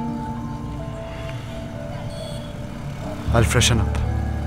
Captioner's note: Traffic sound